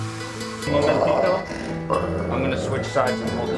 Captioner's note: dog growling